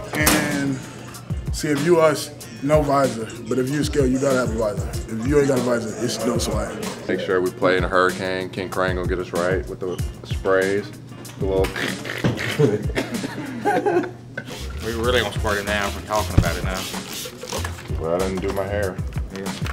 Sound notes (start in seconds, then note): 11.7 laughing